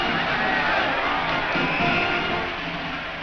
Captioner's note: whistle blows